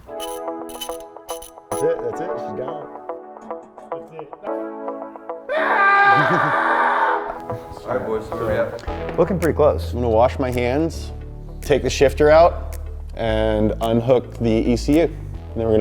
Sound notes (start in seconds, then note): 0.0 funky upbeat music; 5.6 blowing